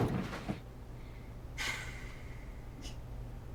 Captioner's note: takes a deep breath